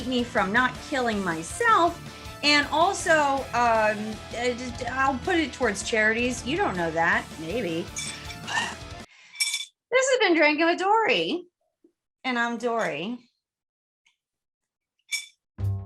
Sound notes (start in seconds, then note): 8.1 slurp